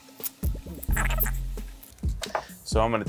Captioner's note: tape pulling; high-pitched sped up audio